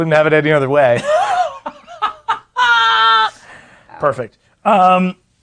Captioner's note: laughing